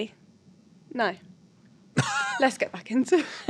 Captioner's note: laughing